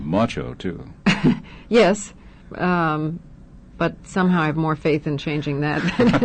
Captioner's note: laughing